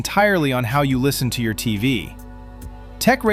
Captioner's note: thoughtful